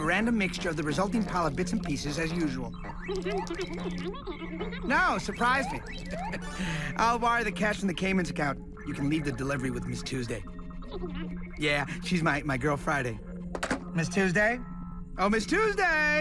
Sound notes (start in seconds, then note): 3.0 chuckles; 12.9 phone clicks